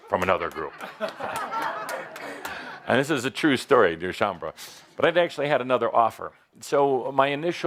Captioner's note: laughter